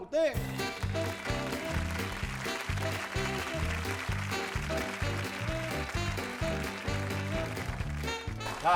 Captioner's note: applause